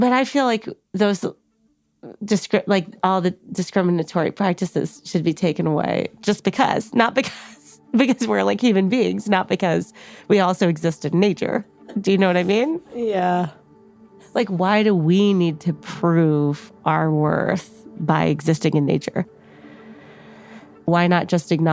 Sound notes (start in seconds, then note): 8.1 laughs